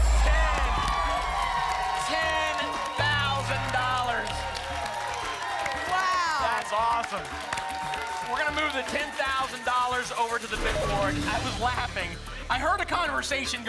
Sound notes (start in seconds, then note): 3.2 applause and cheering